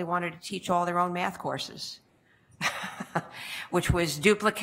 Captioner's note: laughs